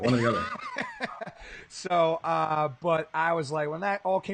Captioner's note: laughing